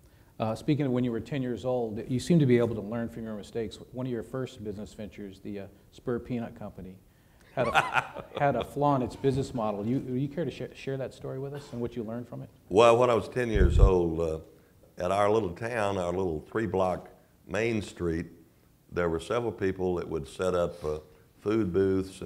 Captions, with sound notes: >>Speaking of when you were 10 years old, you seem to be able to learn from your mistakes but one of your first business ventures, the spare peanut company [laugh] had a flaw in it's business model. Would you care to share that story with us and what you learned from it? >>Well when I was 10 years old in our little town, our little 3 block main street there were several people that would set up food booths